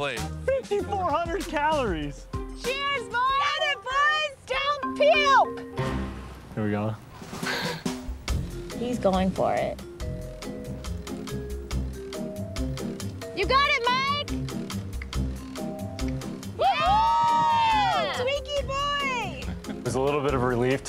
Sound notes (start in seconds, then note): 9.9 light music; 16.5 all cheer